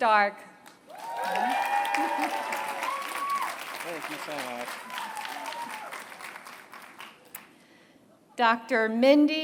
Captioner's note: applause